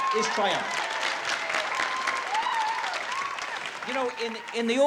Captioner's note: applause